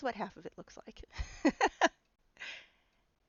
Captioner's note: laughing